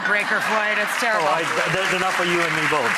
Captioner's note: audience laughs